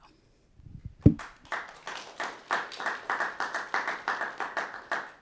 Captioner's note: audience clapping